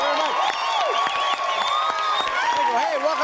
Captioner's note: audience cheering